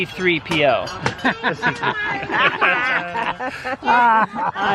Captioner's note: laughing